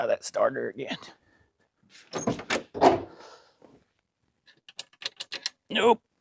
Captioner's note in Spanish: Metal Clanking